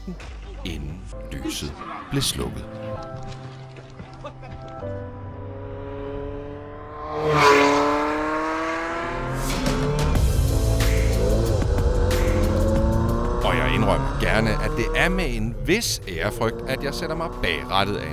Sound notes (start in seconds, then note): 2.8 The sound of the Ferrari 288 GTO